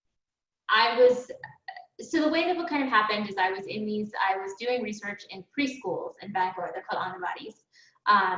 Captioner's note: foreign language